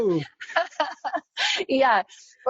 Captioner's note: laughing together